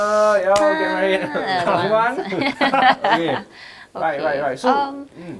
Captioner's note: laughs